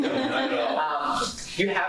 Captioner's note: laughing